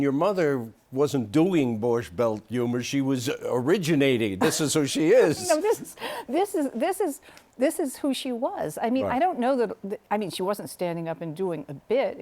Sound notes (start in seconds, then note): 5.7 laughter